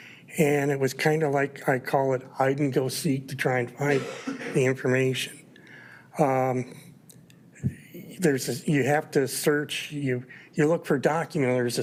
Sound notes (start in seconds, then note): 6.5 attendee coughing